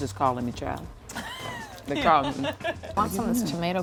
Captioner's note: laughs